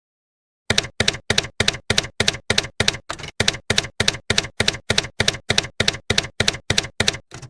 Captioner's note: typewriter keys clacking